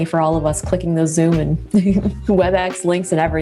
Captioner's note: laughs